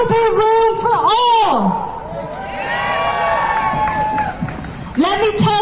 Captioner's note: crowd cheers and applauds